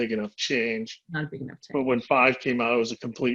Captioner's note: speaking faintly